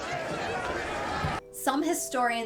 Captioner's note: townfolk clamouring